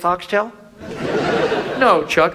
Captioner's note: audience laughs